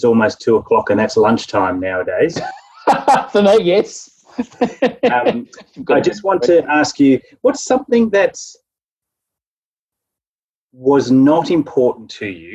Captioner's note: laughing